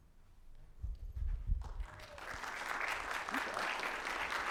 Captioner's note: audience applauds